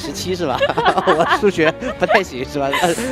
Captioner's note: chuckles